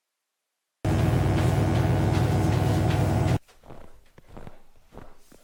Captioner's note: electric buzzing